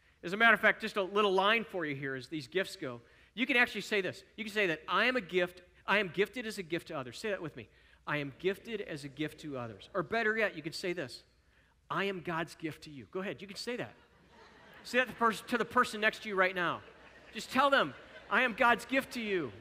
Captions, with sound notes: As a matter of fact, just a little line for you here, as these gifts go, you can actually say this. You say, "I am a gift. I am gifted as a gift to others.” Say that with me. Better yet, you can say this. “I am God's gift to you.” [Audience: chuckling.] Go ahead. You could say that to the person next to you right now. Just tell them, "I am God's gift to you.